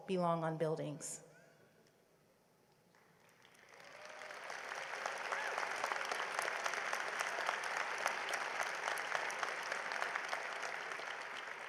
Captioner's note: applause